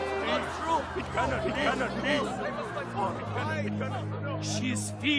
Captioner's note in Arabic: ثرثرة